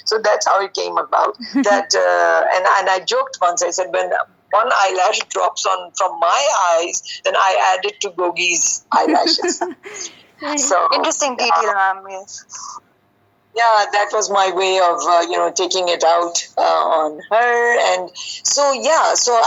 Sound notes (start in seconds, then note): 8.9 narrator giggling